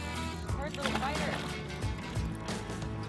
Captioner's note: splash